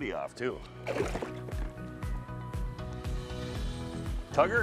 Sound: water splashes

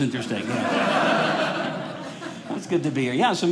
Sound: audience laughing

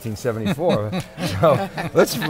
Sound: laughing

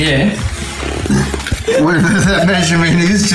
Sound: laughing

